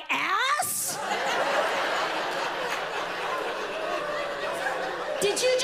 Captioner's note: audience laughs loudly